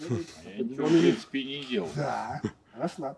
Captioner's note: surprised